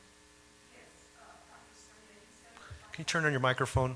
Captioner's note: speaks faintly